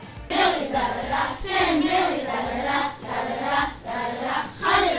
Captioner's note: children chanting